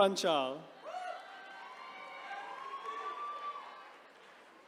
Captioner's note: attendees cheering